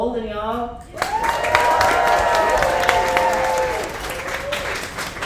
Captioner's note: audience applauds